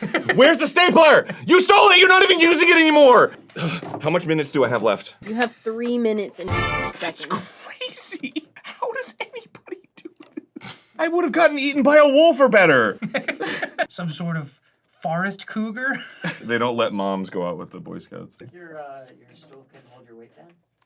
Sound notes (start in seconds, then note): 0.0 dan laughing; 7.1 half sobbing